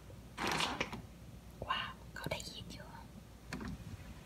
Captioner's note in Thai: เสียงเปิดประตู